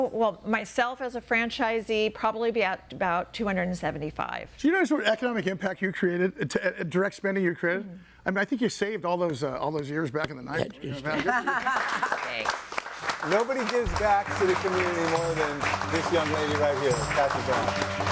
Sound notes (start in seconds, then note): 10.9 all laughing